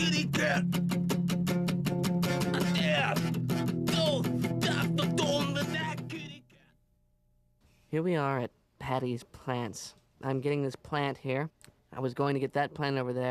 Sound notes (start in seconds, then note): 2.3 grunting to music